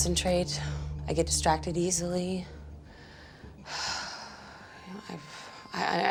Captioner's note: sighs